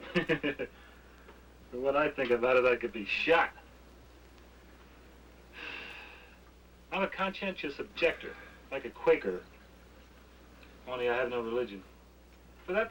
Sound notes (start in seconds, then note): 0.0 laughs; 5.5 sighs